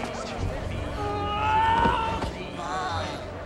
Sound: groaning

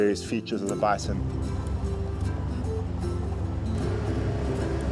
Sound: motor rumbles

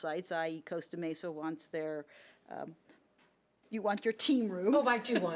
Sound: laughs

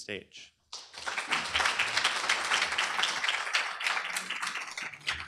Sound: applause

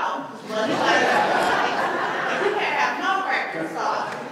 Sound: laughter

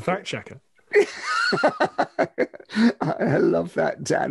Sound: both laugh

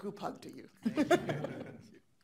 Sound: laughing

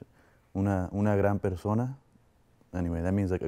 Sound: veteran speaks in Spanish

